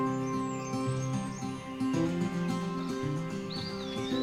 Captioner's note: birds chirping